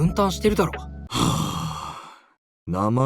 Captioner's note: deep sigh of contempt